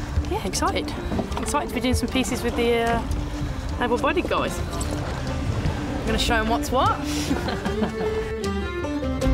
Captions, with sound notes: - Yeah, excited. Excited for doing some pieces with the able-bodied guys. Gotta show 'em what's what (laughs).